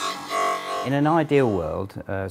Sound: sawing noise

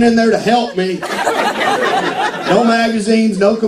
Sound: laughter

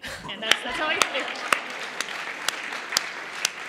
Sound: laughter and Applause

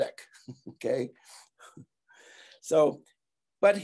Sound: giggling

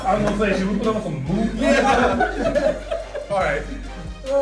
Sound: laugh

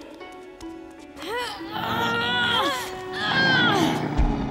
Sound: groaning

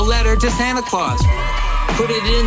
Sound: children cheer

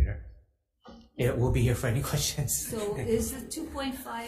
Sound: laughs

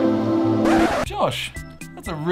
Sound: record skipping

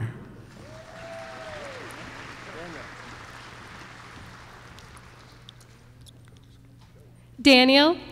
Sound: applause

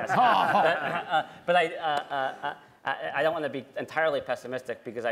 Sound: laughter

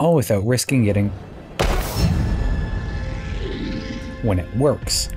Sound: boom

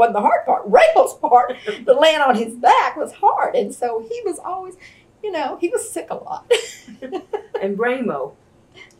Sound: laughs

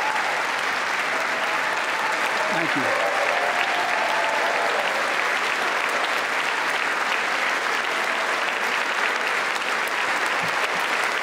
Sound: applause

